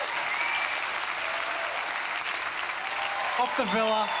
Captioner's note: cheers and applause